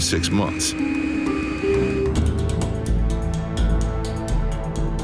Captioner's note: jet engine humming